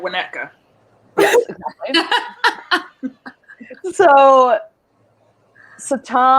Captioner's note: laughing